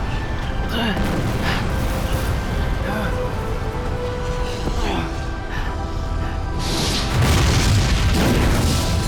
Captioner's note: grunts